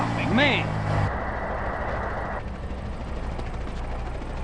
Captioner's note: crashing into another vehicles